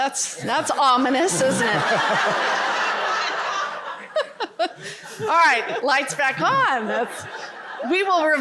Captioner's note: laughter